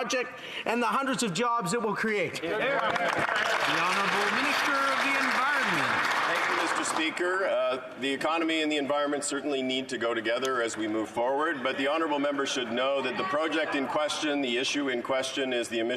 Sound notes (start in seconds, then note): 5.5 some Applause